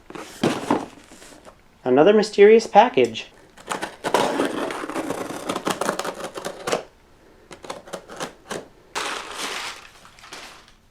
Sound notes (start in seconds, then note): 3.5 cutting into package; 8.9 paper Noises